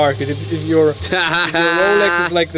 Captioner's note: laughing